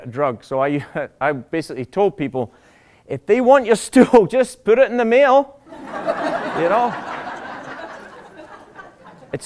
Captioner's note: laughter